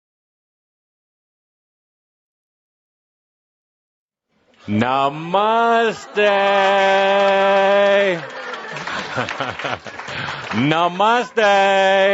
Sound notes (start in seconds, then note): 4.9 audience applause